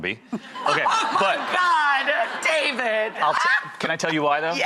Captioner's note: laughs